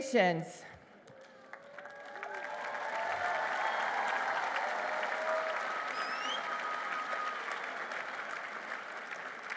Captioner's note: applause